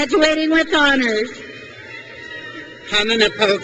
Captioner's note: crowd cheers